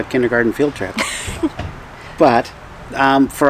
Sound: laughing

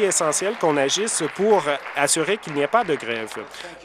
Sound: applause

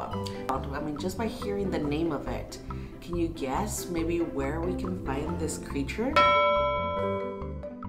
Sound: ding

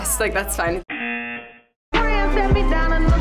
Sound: buzzer

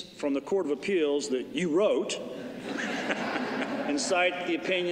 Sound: laughter

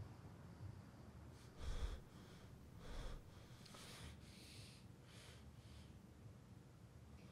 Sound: Hollywood breathing heavily

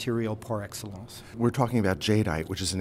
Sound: voiceover

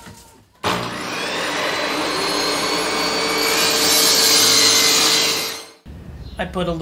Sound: saw running

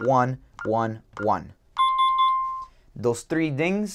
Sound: dinging

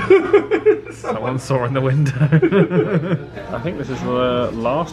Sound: laughs; chuckles

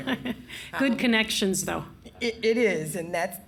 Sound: laughs

